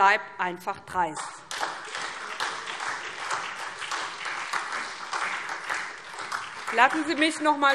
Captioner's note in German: Beifall SPD